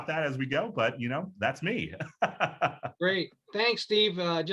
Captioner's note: laughs